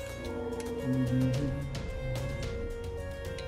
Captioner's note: humming along